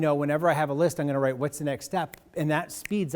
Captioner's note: snaps